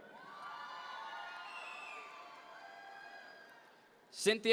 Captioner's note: audience members cheer